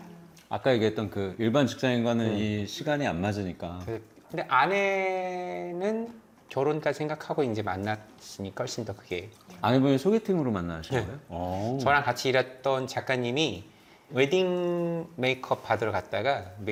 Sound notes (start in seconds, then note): none